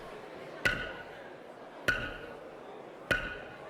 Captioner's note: gavel banging